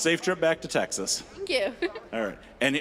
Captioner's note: chuckling